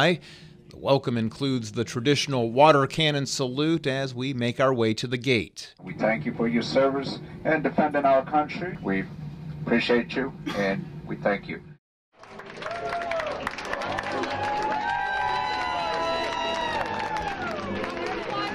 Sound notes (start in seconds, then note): 16.3 applause; 17.0 cheering